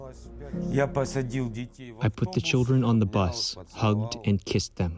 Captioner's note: through translator